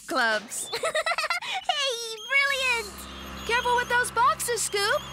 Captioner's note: giggling